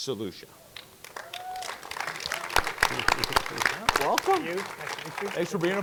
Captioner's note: audience clapping